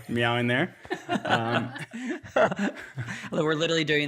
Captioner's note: all laughing